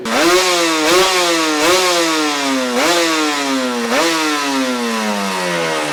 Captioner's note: engine roars